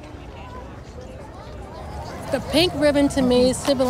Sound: background chatter

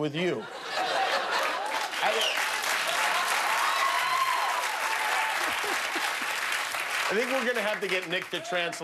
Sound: cheers and applause

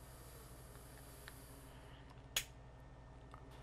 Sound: flick

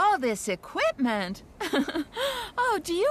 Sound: laughs

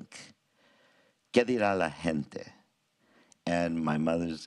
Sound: presenter speaks in a foreign language

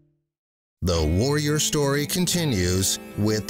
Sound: voiceover

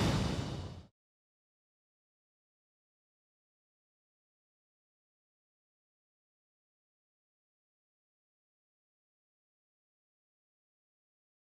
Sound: silence

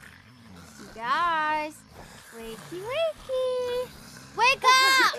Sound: snoring

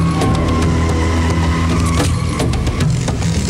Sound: tires screeching

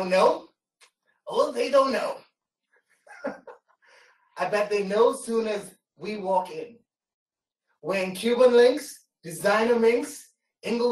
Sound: laughter

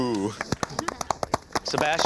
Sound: crowd applauding

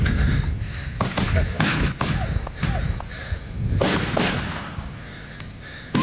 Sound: gunshots

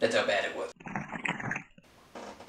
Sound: Distorted Roblox bloxy cola sound effect

